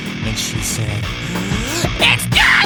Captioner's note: dramatic inhale